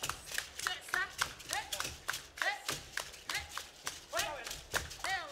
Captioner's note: hands clapping and beads rattling